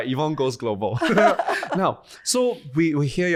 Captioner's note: laughing